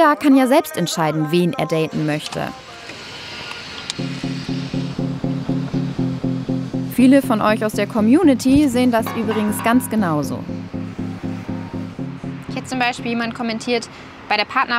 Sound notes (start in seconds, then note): 2.6 Baulärm; 4.0 Dynamische Musik